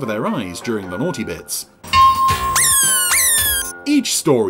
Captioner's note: bell clanging